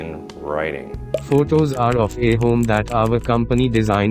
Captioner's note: voiceover